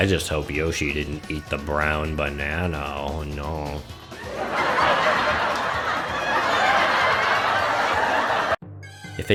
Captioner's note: well-deserved laughter